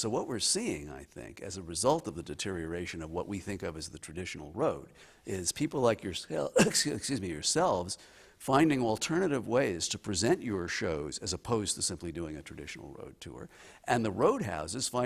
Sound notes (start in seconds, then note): 6.4 coughing